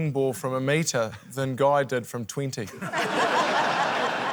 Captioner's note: laughter